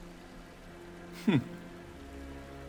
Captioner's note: gasps